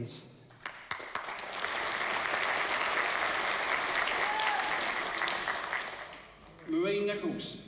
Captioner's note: applause and cheering